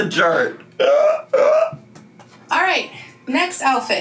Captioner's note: laughing